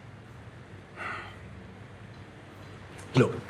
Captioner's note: he sighs, softly